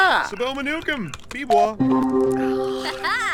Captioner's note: statups and beeps